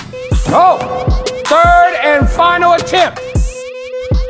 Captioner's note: ball bouncing